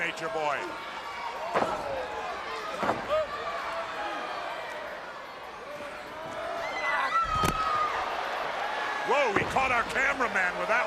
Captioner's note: crowd chatter